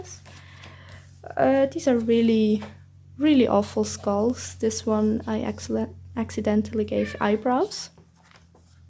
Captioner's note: meow